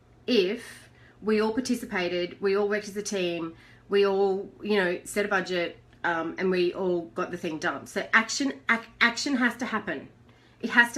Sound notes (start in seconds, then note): none